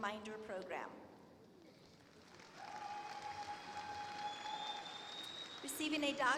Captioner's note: applause